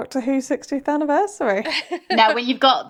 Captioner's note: laughing